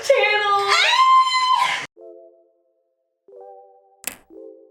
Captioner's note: screams